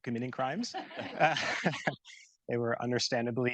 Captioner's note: audience laughing